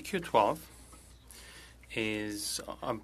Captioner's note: speaking French